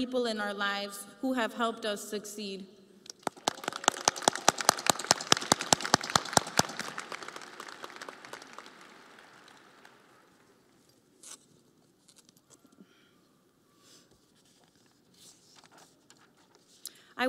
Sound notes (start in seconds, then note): 11.7 audience applauding